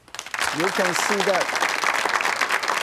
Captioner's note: audience applauding